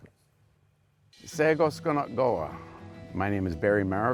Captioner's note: speaking in Mohawk